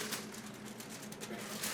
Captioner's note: foil crinkles